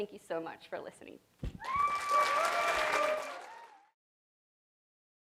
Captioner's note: applause